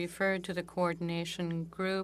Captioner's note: speaking French